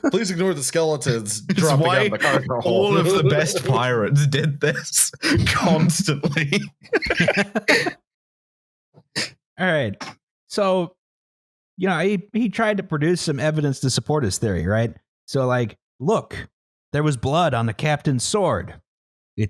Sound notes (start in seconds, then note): 4.3 laughing; 7.0 laughter